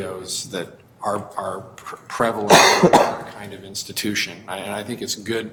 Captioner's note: coughing